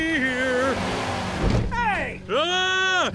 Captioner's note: engine revs; crash